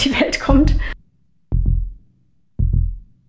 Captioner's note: heartbeats